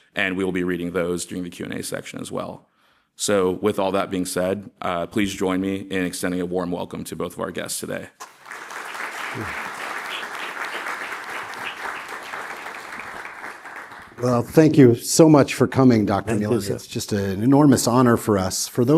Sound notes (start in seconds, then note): 8.2 audience applauds